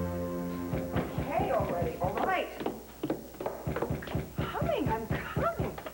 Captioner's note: knock on door